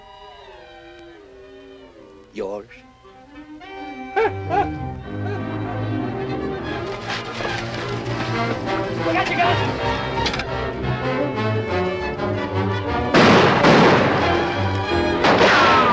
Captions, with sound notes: Yours? Get your guns! [ GUNSHOTS ]